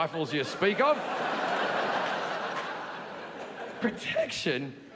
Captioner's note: audience laughing